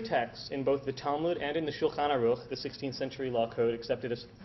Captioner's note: Hebrew